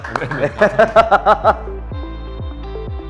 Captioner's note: laughs